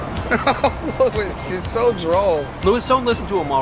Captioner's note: chuckles